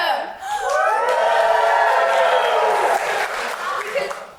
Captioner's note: audience cheers